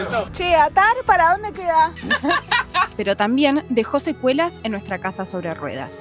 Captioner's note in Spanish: risas